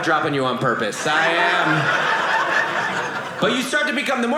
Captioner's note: audience laughing